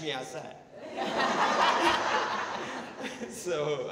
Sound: audience laughing

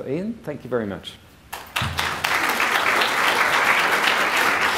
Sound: applause

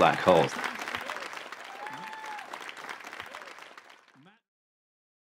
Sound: crowd cheering

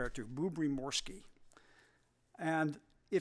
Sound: russian

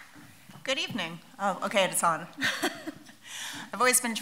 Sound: laughs

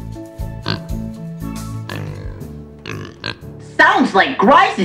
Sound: pig snorts

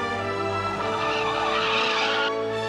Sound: tires screeching

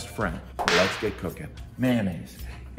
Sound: whip cracking

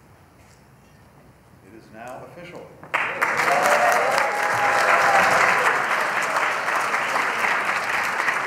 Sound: cheers and applause

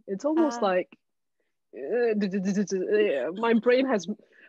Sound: murmurs

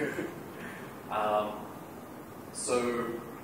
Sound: laughter

